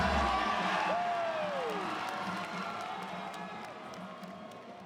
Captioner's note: crowd cheers